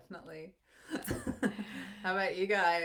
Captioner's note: laughs